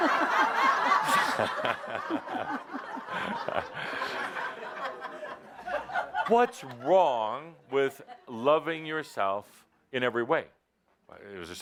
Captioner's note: more laughter